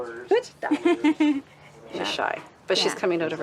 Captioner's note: chuckles